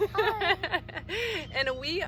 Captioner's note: laughing